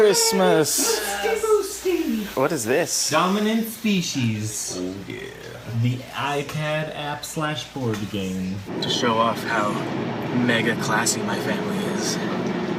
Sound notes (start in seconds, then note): 4.7 in a low voice